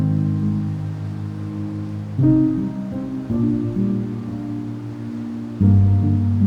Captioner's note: light wind